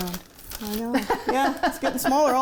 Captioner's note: laughs